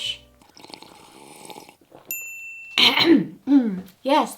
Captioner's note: drinks- ding! coughs